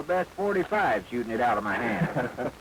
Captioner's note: laugh